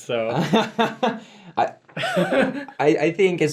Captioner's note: laughs